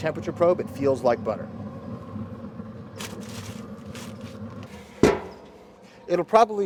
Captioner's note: sound of Smoker